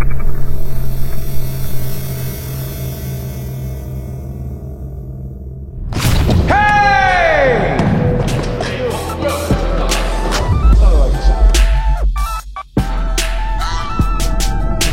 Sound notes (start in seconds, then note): 5.8 dunk sound; 6.4 cheers